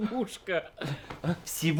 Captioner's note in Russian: усмешка